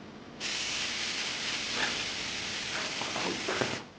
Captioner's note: nozzle hissing